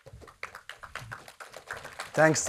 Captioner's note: audience applauds